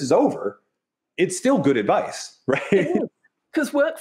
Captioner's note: chuckles